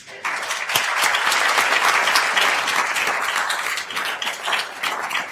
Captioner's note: attendees applauding